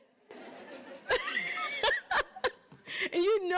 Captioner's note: laughing